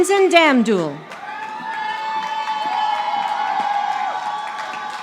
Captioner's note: audience applauding